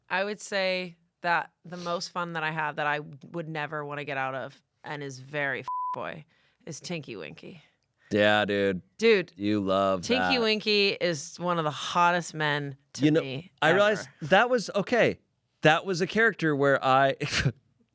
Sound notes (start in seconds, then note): 5.6 beep; 17.3 laughs